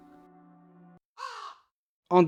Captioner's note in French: Corbeau qui croasse